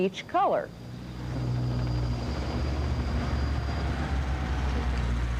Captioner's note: helicopter engine; car engine